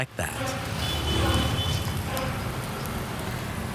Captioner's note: horns honk